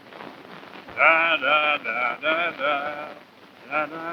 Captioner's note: humming